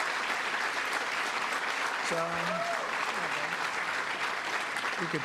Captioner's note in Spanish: aplausos